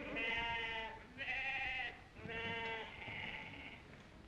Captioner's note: sheep baaing